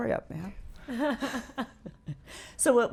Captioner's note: laughing